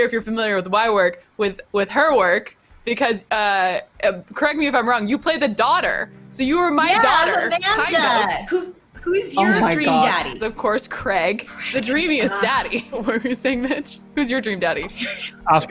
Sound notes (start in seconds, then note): 11.5 scoffs